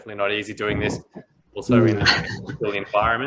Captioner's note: mumbles and chuckles